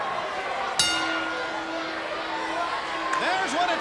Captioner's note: bell ringing